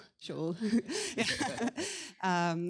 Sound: laughs

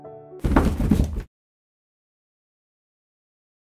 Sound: sound of someone collapsing

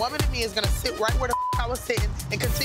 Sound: beep

